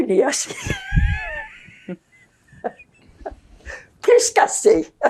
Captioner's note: laughing